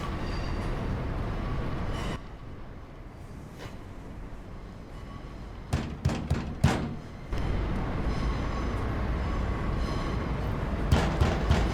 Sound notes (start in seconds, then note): 5.8 Sonny continues knocking; 10.0 traffic roaring